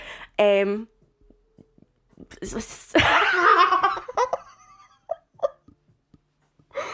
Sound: manic laughter

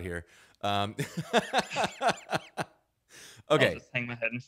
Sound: both laughing

